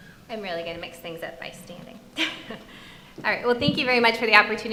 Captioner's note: chuckling